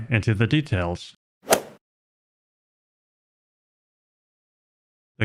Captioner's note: golf ball hit sound effect